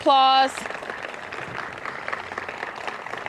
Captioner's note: applause